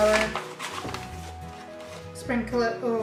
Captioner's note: bag rustles